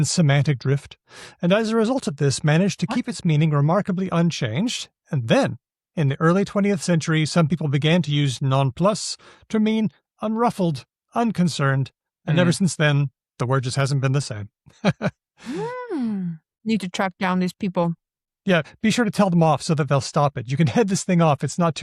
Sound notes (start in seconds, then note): 14.7 chuckles